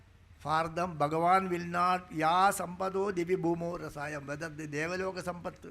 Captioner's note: speaking in Sanskrit